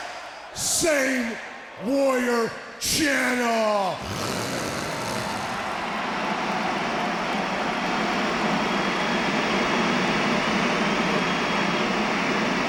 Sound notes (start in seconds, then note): 4.0 growls; 4.9 white noise hisses